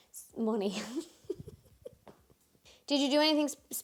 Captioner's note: laughs